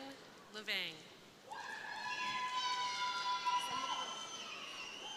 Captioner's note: crowd cheering